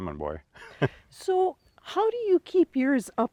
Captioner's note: chuckles